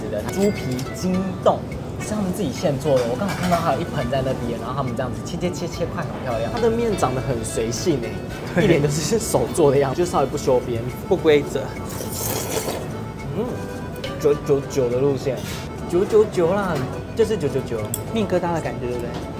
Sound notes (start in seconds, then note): 11.8 slurp